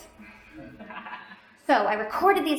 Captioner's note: laughter